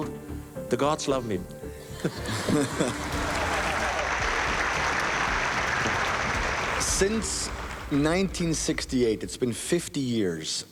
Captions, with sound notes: The gods love me. [laughter] [applause] Since 1968, it's been 50 years.